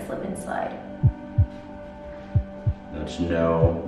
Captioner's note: heartbeat